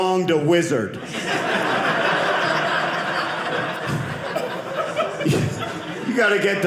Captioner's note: audience laughing